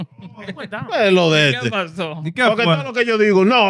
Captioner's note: speaking In Foreign Language